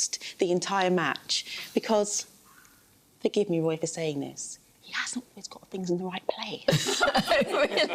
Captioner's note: laughter